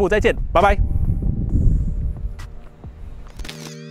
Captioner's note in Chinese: 大风继续吹